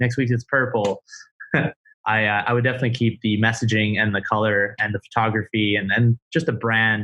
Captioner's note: laughs